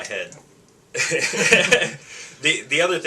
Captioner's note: laughing